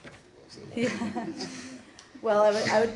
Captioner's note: laughter